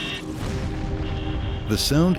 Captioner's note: thudding